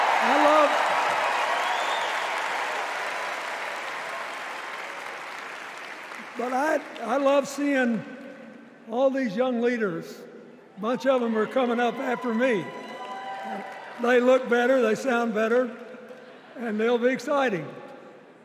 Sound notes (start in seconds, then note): 4.2 cheers and applause